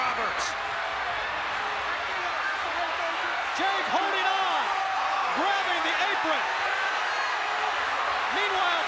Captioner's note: applause